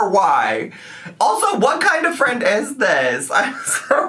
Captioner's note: laughing